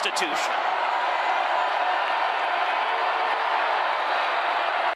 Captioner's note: crowd cheering